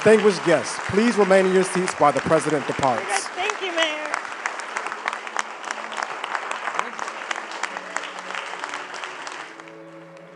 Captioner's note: applause